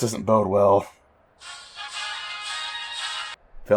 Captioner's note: Airforce ringtone